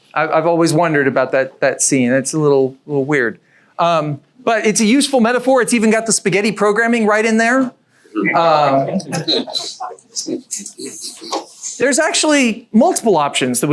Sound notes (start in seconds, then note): 8.8 audience chuckles